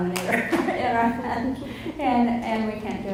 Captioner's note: laughs